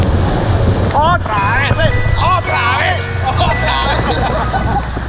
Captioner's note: chanting